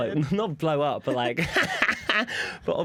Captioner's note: laughter